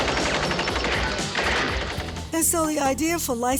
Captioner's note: gunfire